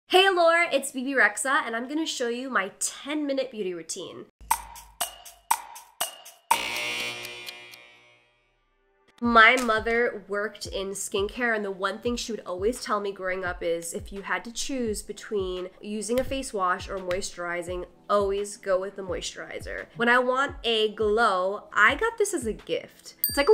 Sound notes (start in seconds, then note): 4.5 clock ticking; 6.5 buzzer ringing